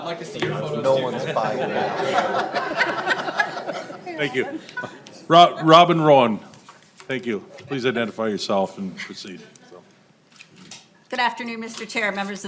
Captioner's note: laughter